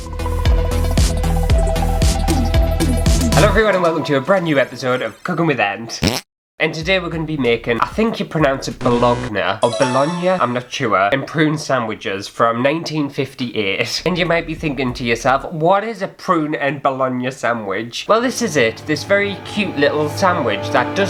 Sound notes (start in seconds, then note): 0.1 intro Music; 6.0 fart!